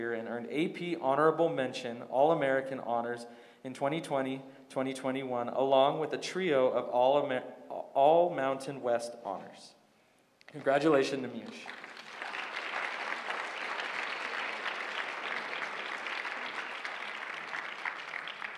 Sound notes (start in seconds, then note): 10.5 applause